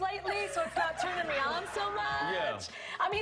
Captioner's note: laughter